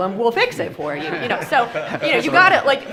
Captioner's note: group laughs